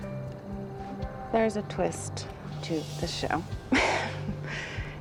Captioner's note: laughs